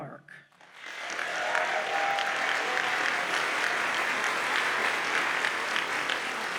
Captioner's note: audience cheers and applauds